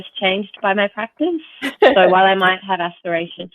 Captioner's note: chuckles